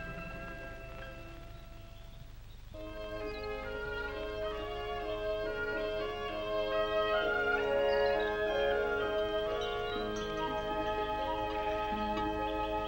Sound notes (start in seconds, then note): 2.6 birds chirping; 2.6 light music